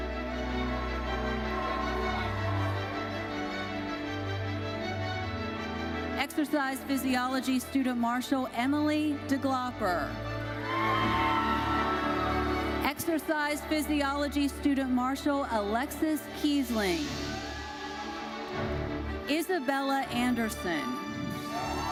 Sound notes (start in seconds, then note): 0.0 audience cheering and applauding; 10.6 audience cheering and applauding; 12.7 orchestral music continues; 17.2 audience cheering and applauding